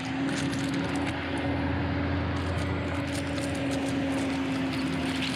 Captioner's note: engine rumbling